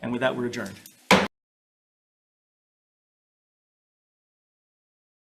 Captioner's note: hammering gavel